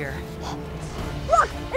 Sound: gasps

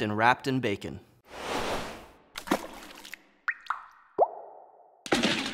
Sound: sauce dripping

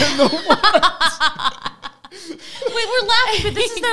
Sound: group laughing

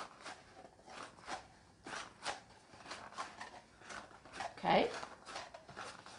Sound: crunching

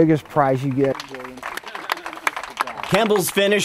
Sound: applause

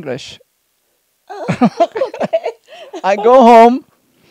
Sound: laughs

